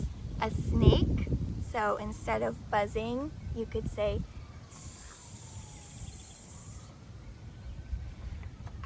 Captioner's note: hissing sounds